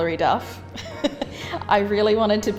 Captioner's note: laughs